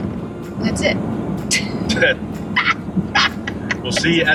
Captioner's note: laughing